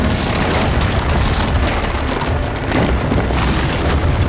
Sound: concrete thudding

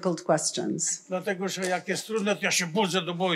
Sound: foreign language

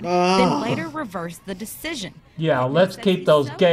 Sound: groans loudly; voice-over

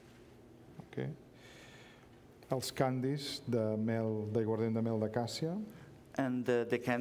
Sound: speaking catalan

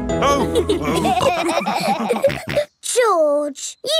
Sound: all laughing

